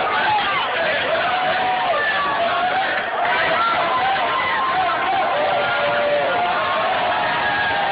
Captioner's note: crowd chants “ron paul!” “ron paul!”